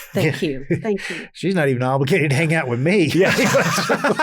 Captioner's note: laughs